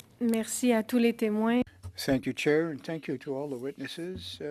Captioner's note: speaking French